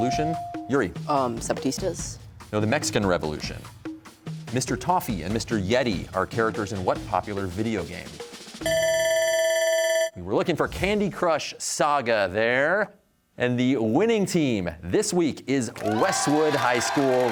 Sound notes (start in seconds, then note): 8.6 bell ringing